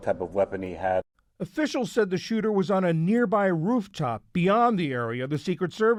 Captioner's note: voice-over